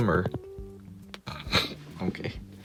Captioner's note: snicker